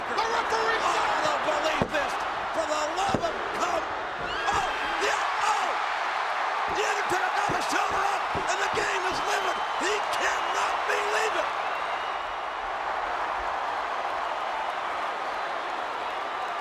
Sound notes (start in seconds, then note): 4.6 crowd cheering; 7.3 presenter speaking faintly off mic; 13.7 crowd cheering